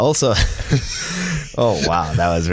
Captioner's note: laughter